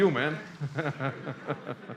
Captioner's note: laughs